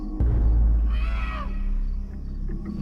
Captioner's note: screaming